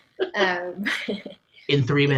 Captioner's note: laughs